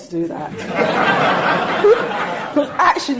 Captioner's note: audience laughing